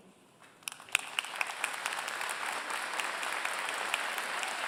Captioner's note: applause